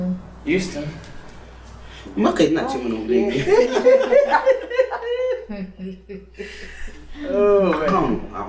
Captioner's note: laughing